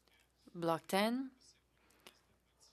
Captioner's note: speaking French